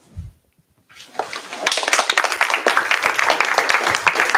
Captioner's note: applause